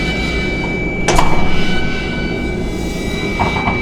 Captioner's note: rattling